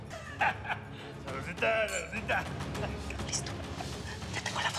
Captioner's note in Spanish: risotada